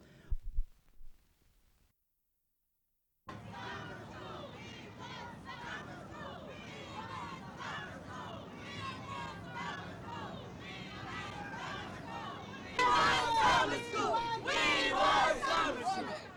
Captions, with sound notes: [No audio] [Street noise, protesters chant] We want summer school. We want summer school. [Protesters chant] We want summer school. We want summer school.